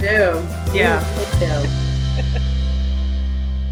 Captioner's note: laugh